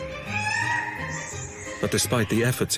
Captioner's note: squawking